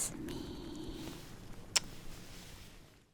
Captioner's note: kiss